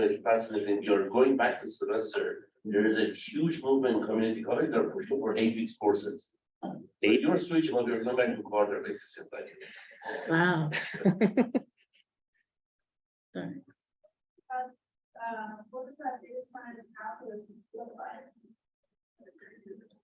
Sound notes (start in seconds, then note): 10.6 chuckling